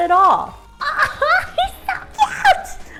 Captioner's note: laughs